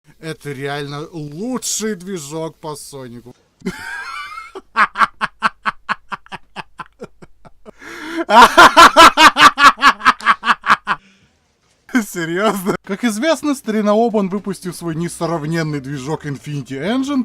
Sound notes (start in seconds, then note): 3.6 laugh